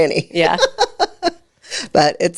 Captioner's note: laughs